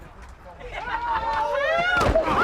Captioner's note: woman screaming; thud